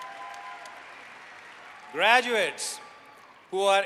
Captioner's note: applause